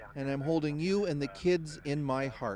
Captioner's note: speaking French